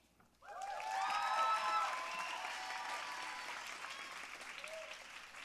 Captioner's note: audience cheering and applauding